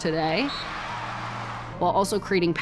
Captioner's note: audience cheers